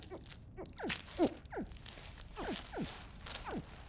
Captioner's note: short grunts and squeaks